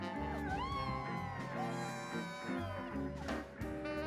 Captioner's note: cheering